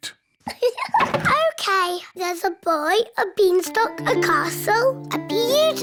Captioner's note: laughs